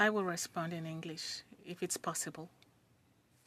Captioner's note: speaking French